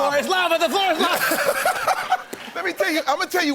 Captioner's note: laughter